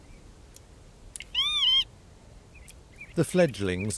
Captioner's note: bird caws